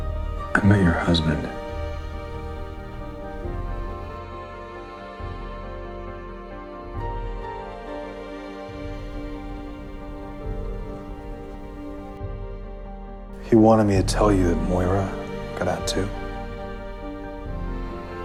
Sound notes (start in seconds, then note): 13.6 voiceover